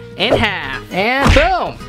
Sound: punching noise

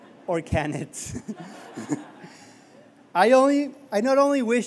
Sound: laughter

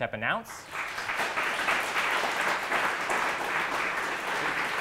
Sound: crowd clapping

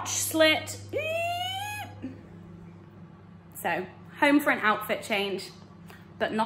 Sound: squeals

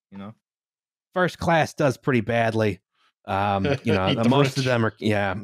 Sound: laughs

